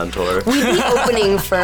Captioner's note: laughs